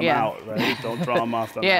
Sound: laughter

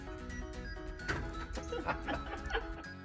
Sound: oven door thudding; both laughing

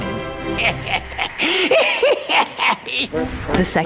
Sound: man laughs

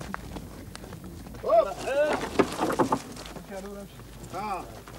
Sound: non-english speech

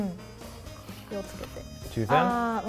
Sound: speaks in foreign language

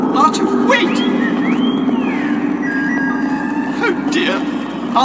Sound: R2-D2 beeping

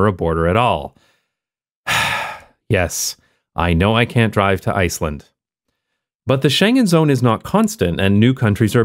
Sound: sigh

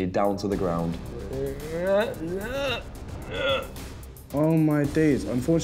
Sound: gagging

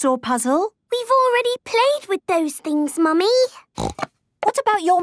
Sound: snorting

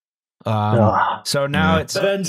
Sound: sighs regretfully

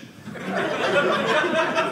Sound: audience laughing

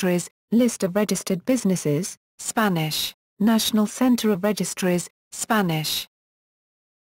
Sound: Spanish

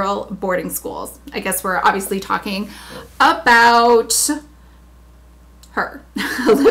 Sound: laughs

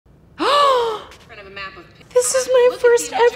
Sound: Hailee gasps

